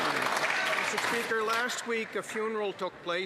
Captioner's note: some Applause